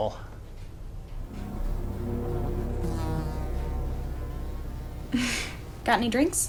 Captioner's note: eerie music; flies buzzing